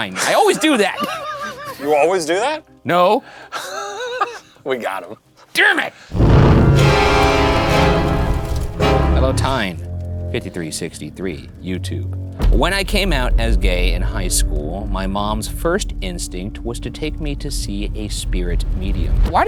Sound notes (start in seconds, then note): 3.4 laughing; 6.1 flames flickering; 6.4 abrupt ominous music